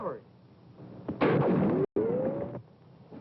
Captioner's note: gunshot